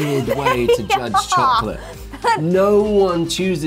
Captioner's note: laughs